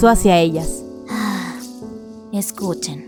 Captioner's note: sigh